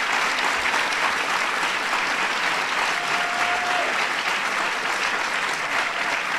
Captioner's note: applause